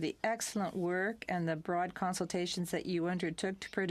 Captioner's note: speaking french